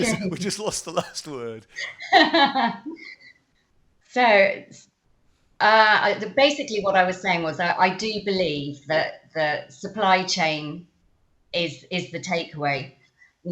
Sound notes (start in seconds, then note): 2.5 chuckles